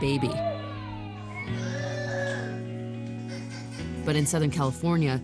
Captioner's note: babies crying